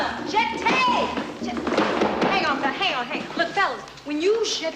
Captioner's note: tapping